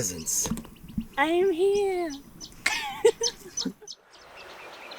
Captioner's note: laughs